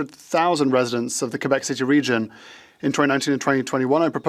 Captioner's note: speaking French